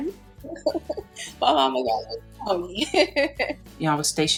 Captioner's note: laughing